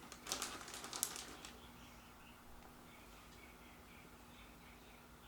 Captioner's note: birds chirping